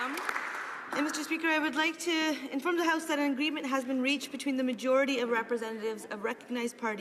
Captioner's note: applause